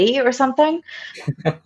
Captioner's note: laughs